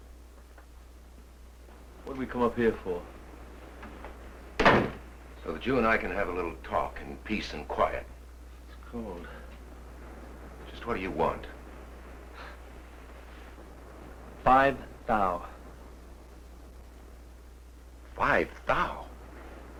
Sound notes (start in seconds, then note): 12.1 Nick scoffs